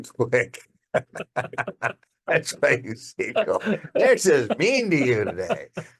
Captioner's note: laughing